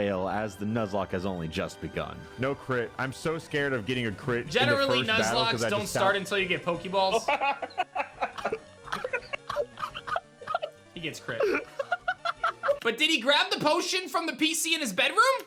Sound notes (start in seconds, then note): 7.2 laughs